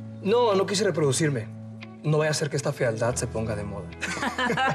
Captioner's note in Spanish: risas